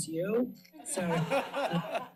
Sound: laughter

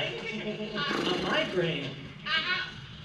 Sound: horse Sound

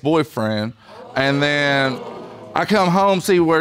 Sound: audience exclaiming

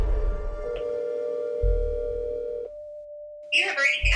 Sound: tense music; phone ringing

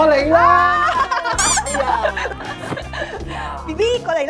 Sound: laughters

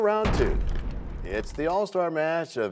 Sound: crashing sound

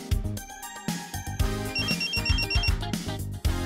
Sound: pager beep

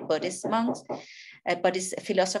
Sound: neighbor hammering

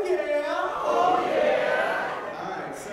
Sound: laugh

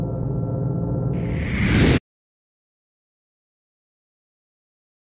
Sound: air whooshing

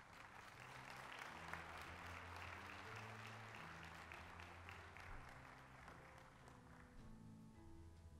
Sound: applause

